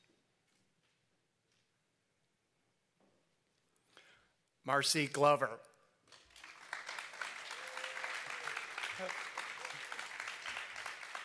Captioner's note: applause